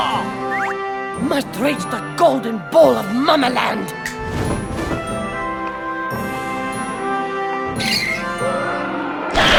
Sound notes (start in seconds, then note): 2.8 snaps fingers; 4.2 running footsteps; 6.6 screech!; 8.3 snapping